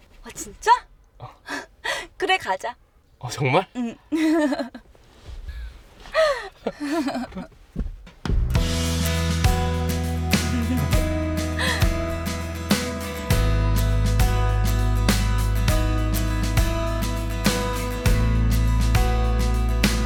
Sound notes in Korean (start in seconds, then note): 3.8 웃음